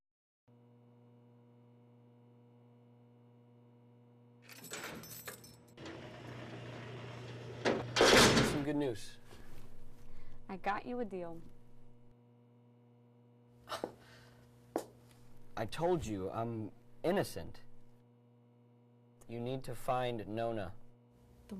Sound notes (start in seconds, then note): 4.2 clanking; 13.6 sighing